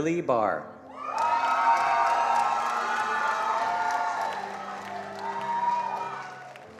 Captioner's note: attendees cheering and applauding